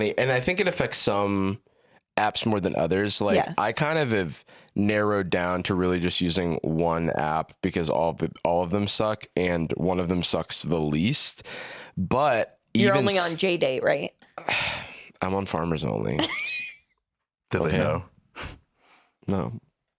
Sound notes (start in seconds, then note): 14.4 sighs; 16.2 laughs